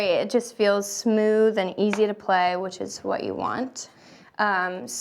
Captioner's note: none